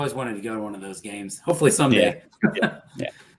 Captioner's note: laughter